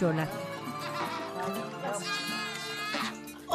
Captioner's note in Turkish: Bebek ağlama sesi